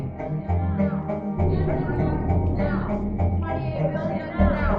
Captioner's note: protestors chanting